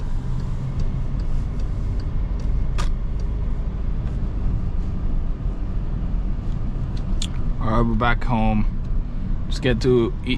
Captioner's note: car engine